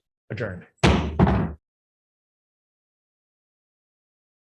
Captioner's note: gavel pounding